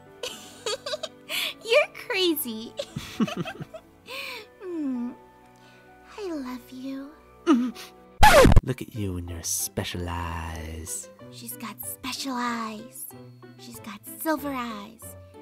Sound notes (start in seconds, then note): 0.2 giggles; 2.8 giggles